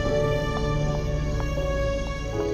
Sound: footsteps

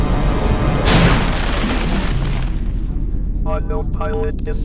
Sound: loud exploding

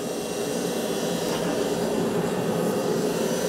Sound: machine whirring

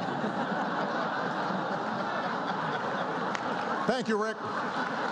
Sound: laughter

